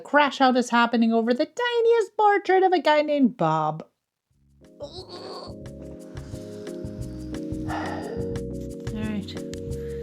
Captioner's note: frustrated grunt